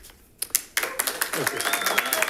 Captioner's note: attendees applauding